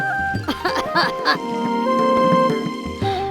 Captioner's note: coughs